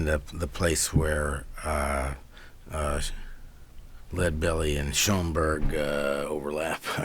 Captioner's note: laughs